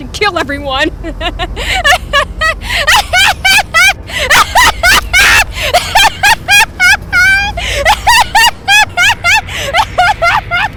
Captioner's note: laughs hysterically